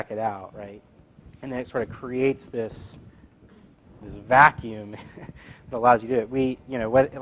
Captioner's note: laugh